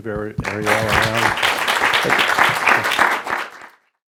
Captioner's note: audience applauding